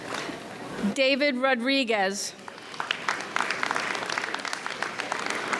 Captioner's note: audience applauds